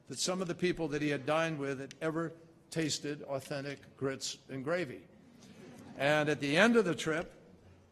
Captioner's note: laughter